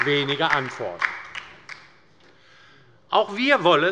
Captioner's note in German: Beifall bei der LINKEN